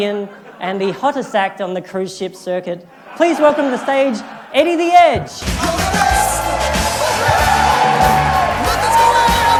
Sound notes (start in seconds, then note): 6.8 applause